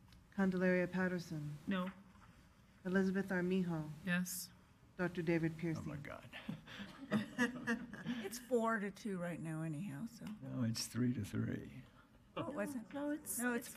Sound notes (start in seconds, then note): 6.6 laughing